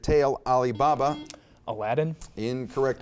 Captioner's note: buzzer beeps